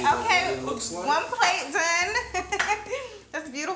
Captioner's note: chuckles